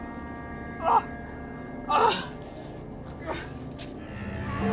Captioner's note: Arawn groaning